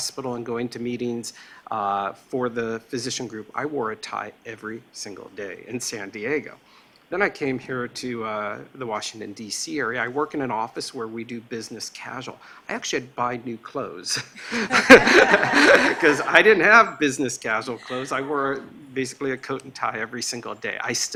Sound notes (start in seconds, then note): 14.4 laughing